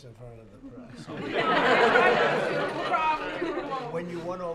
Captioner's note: laughter